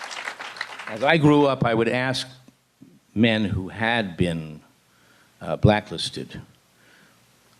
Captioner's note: applause